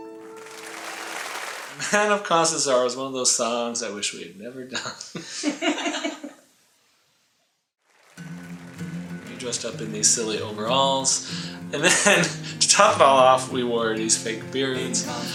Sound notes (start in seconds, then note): 0.0 applause; 5.1 laughter behind camera; 7.8 applause